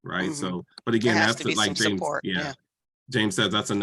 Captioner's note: both chattering